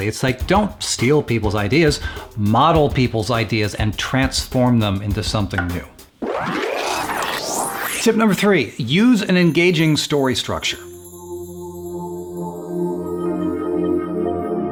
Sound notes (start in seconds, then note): 6.2 sped up electronic sound; 11.1 suspenseful music